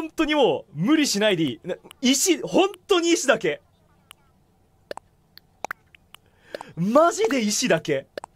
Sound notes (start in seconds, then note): 6.2 takes a breath